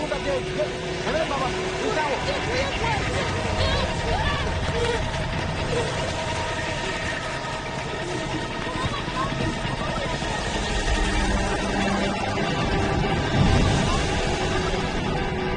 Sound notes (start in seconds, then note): 2.2 children yelling; 2.5 helicopter roaring; 10.5 distorted apocalyptic music; 10.5 helicopter roaring